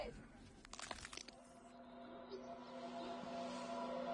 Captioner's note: bones cracking and breaking